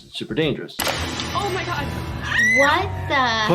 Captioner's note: woman screaming